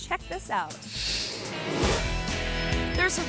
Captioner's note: graphics whooshing